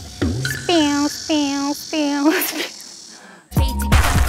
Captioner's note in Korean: 매미 소리 내는 중